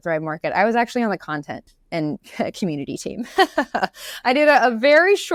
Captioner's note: laughs